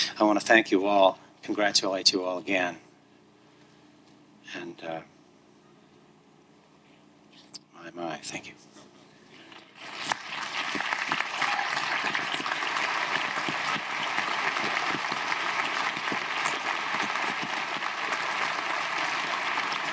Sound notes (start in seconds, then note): 9.8 audience applauding; 10.1 audience cheering